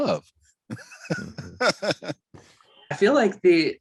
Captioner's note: laughs